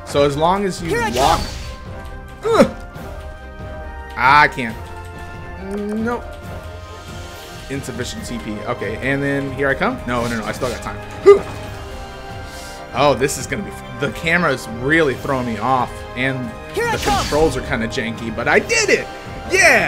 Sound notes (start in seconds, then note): 5.2 random grunts/sounds of pitiful panic